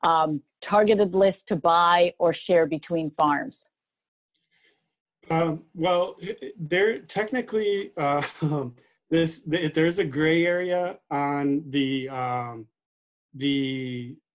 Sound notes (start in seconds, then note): 7.6 laughing